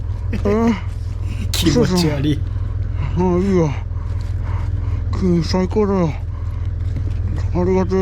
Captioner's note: haha